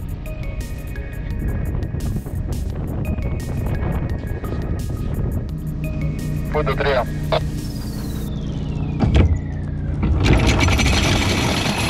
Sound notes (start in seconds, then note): 6.5 on the radio